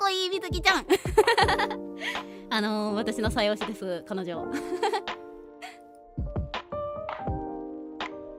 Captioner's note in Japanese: 笑い